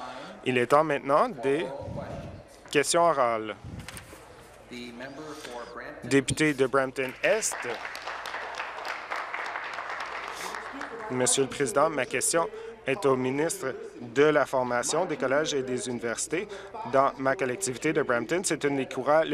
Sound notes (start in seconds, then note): 9.7 applause